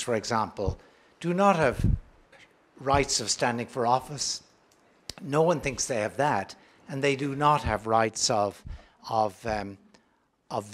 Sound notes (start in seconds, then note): none